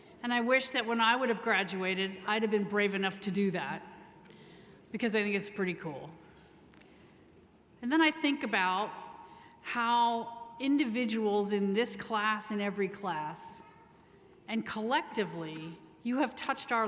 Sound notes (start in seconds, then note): none